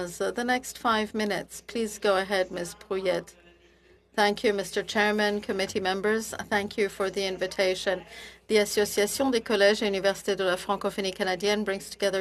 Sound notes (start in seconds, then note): 9.5 speaking French